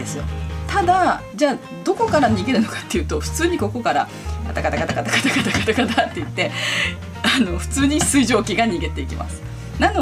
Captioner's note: rattles